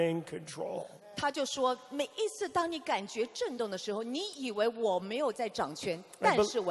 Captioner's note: interpreter speaking in foreign language